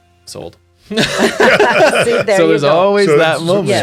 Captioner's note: all laugh